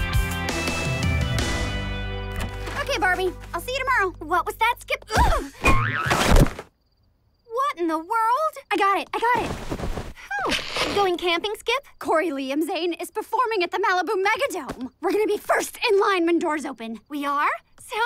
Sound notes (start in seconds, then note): 2.3 door opening; 5.7 boing; 6.1 thud